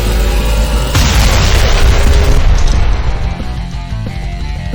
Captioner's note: explosion booming; tense music continues